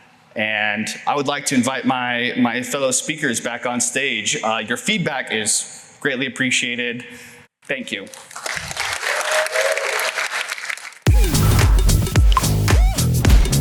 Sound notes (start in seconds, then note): 8.0 applause